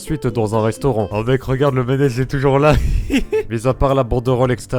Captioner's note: laughs